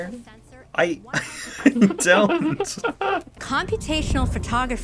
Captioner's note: laughs in recycled camera numbers